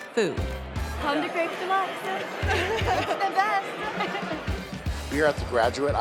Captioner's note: laughing